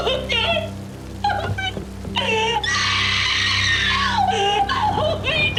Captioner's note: screams